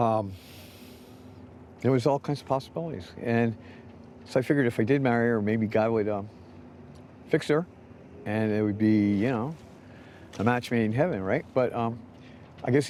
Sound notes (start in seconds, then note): none